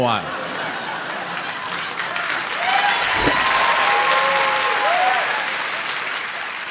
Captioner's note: audience laughs, applauds and cheers